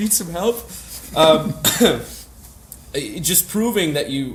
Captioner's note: laughs